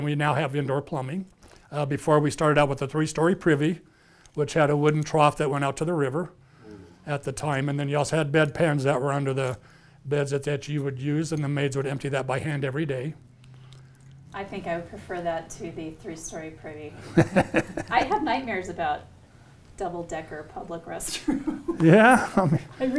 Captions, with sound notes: We now have indoor plumbing. Before we started out with a three-story privy, which had a wooden trough that went out to the river at the time, and then you also had bed pans that were under the beds at that, you would use in the maids would empty that by hand every day. - I think I would prefer that to the three-story privy. - [laughs] - I have nightmares about double-decker public restroom. [laughs] - Yeah, okay.